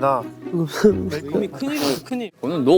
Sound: sobbing

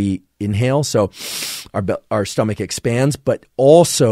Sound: inhales deeply

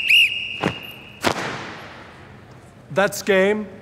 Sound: whistle blows; flags snapping

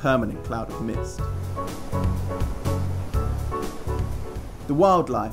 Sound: splashing water

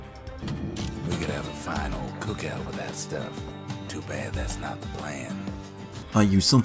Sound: in-game audio

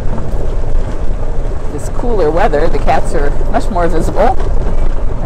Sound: cart noise

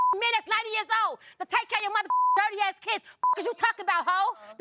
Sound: beep

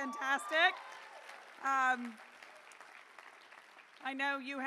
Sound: applause

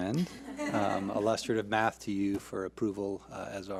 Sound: board laughs

